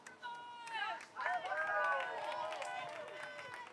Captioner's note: cheers